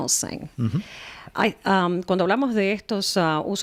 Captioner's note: Hablando ingl\s